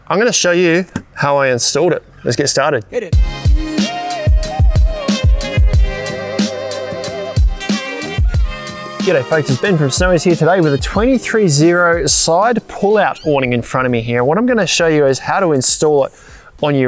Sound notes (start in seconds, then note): 3.2 voiceover; 4.1 upbeat soulful music